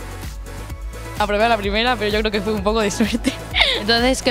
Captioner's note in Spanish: risas